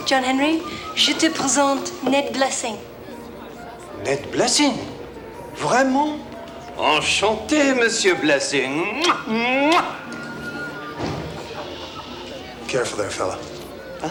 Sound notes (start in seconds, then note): 0.9 speaks French; 5.5 John speaks French